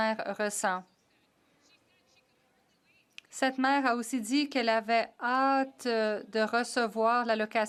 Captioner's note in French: voix de l'interprète